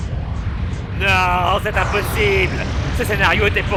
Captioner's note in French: bruitages magiques